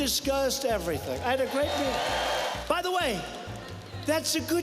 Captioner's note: cheers, applause